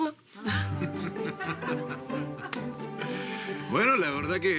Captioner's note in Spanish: Risas